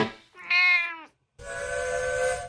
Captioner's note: meow!